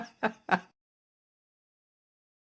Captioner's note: laughing